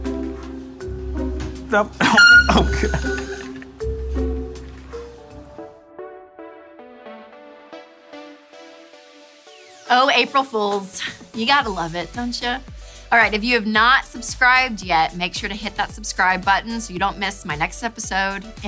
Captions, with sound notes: (chair squeaks) Oh. (laughs) (upbeat music) - Oh, April Fools. You've got to love it, don't ya? All right, if you have not subscribed yet, make sure to hit that subscribe button so you don't miss my next episode,